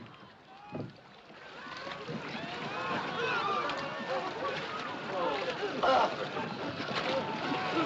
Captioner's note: Gritos, tremores